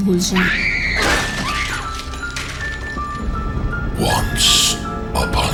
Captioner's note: women screaming and eerie music